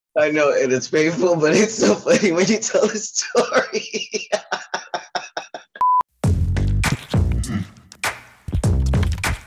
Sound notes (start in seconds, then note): 3.2 laughter